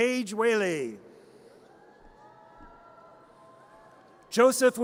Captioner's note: audience cheers